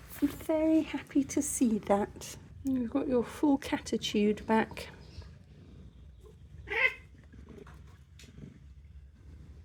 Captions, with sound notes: I'm very happy to see that. You've got your full catitude back. [cat yowl]